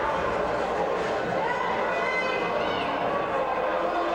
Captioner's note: none